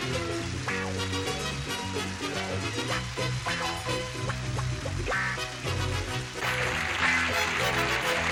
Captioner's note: theme music; applause